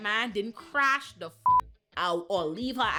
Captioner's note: beep